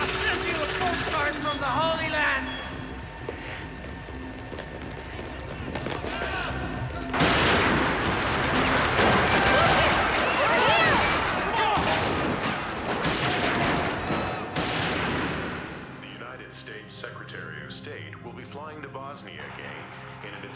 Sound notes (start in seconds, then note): 7.3 guns fire; 12.0 guns fire